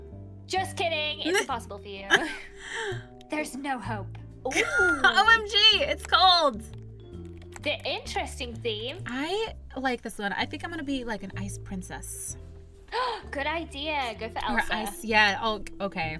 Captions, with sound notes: Just kidding! It's impossible for you... There's no hope! [Laughs] OMG It's Cold! Interesting theme I...like this one, I think I'm gonna be like an ice princess [Gasp] Good idea! Go for Elsa Or ice--Yes! Okay